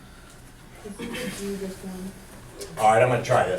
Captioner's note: voiceover